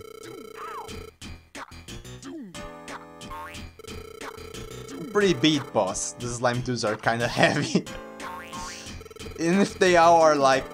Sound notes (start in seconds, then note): 7.3 chuckles